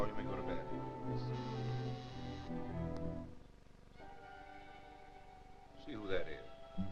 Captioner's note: doorbell buzzing